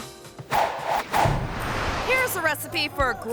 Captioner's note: air whooshes